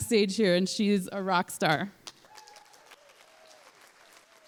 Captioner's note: applause